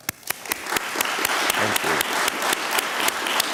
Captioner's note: applause